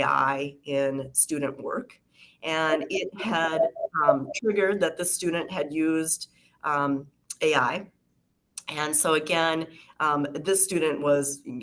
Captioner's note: feedback